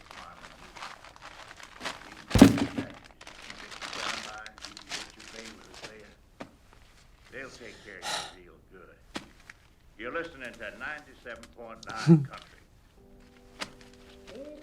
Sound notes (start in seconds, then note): 8.0 sighs